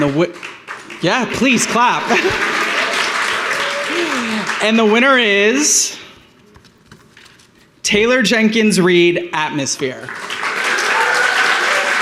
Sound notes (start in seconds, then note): 2.1 applause; 10.0 applause and cheering